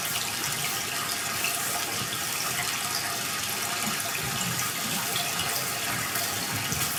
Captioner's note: water trickling continues